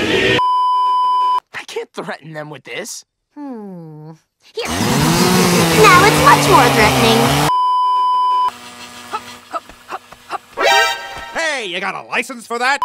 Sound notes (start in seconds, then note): 0.4 beeeeeep; 7.5 beeeeeep; 10.6 MGS "!" sound